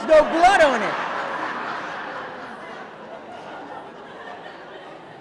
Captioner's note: audience laughing